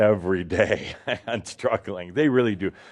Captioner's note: Adamus chuckles